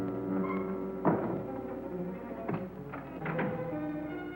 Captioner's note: door bangs shut